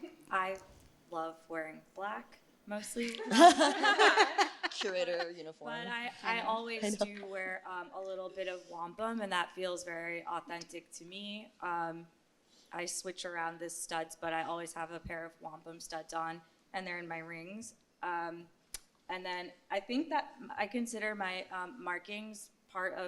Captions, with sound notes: I love wearing black, mostly. [LAUGHTER] Curator uniform. But I always do wear a little bit of wampum, and that feels very authentic to me. I switch around the studs, but I always have a pair of wampum studs on, and they're in my rings. And then I consider my markings part